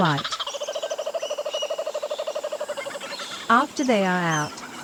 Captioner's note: bird sounds